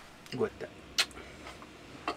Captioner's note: in Swiss German